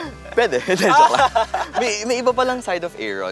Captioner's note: laughter